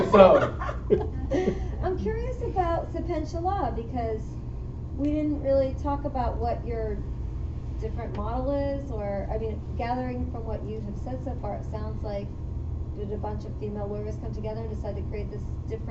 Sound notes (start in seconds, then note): 0.0 laughter